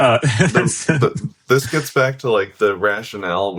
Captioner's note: laughs